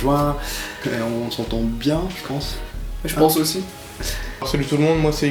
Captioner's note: laughs